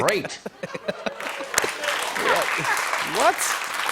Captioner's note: laughter and applause